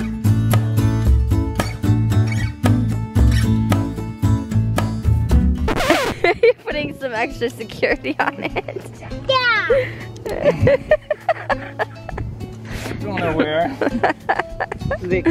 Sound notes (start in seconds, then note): 0.2 mellow music; 5.6 record scratch